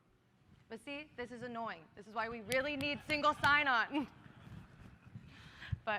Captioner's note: laughter